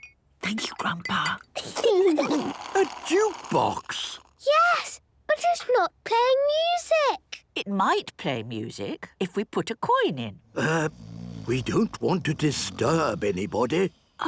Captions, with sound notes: - (Granny whispering) Thank you, Grandpa! - (children giggling) - A jukebox!? - Yes... But it's not playing music. - It might play music if we put a coin in. - Er... - (people snoring) - We don't want to disturb anybody.